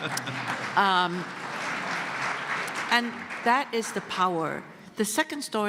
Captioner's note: laughter